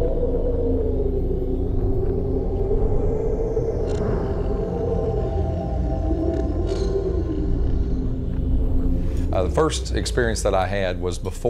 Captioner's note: blowing wind